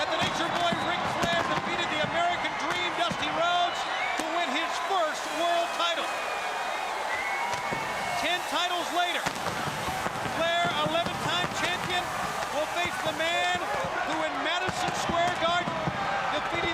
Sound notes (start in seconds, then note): 6.7 crowd cheering; 8.8 crowd chatter